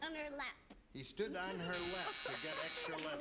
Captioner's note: buzzer